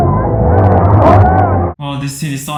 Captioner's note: honking